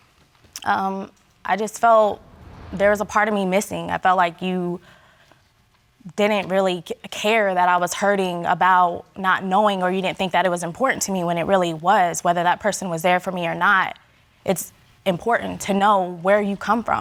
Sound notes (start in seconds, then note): none